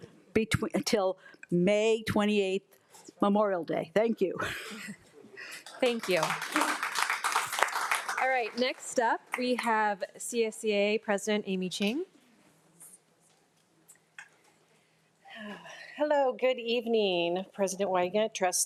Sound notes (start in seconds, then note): 7.1 audience applauding